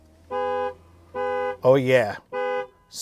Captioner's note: horn honking